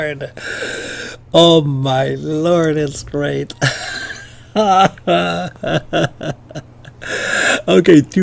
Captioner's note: laughter